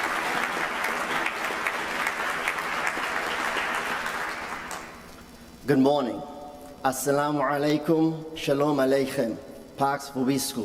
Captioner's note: applause